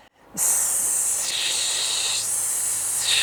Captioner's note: hissing